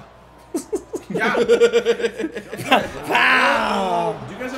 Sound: laugh

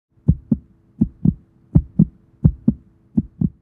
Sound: steady heartbeat

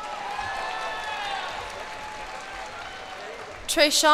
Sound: cheers and applause

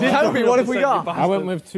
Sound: Sidemen laugh

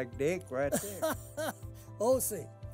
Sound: laughing

